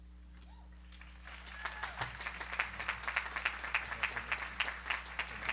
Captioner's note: audience applauding